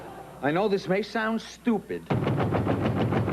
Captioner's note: knock on door